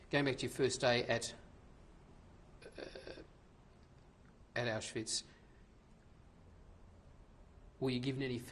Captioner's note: pauses for 3 seconds